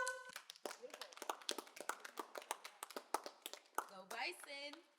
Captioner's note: students applauding